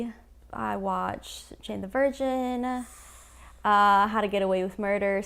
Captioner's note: inhales sharply offscreen